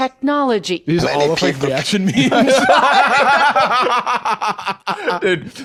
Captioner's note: both laughing